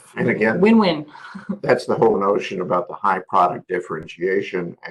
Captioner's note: laugh